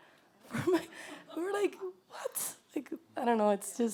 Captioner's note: laughter